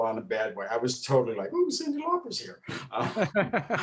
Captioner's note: laughs; laughing